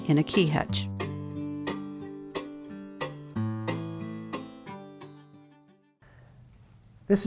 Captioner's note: guitar music; clock ticking